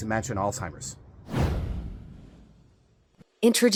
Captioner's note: air whooshing